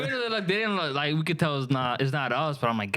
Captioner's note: laughing